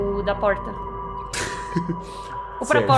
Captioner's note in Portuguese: risada